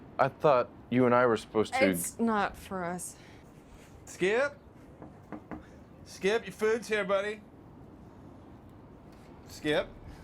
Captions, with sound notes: - I thought you and I were supposed to- - It's not for us. - Skip, (knocks) Skip, your food's here, buddy, Skip?